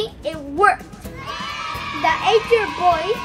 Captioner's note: cheering